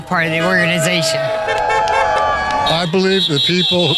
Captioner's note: car honking. Crowd cheering